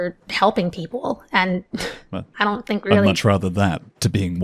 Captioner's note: chuckles